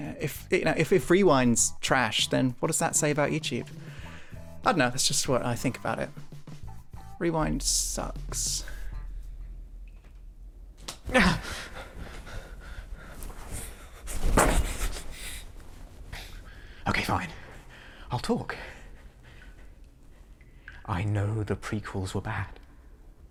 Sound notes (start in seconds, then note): 11.0 gasps